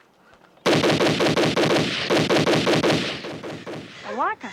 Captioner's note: rapid gunshots